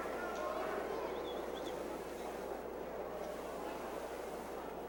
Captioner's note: crowd chattering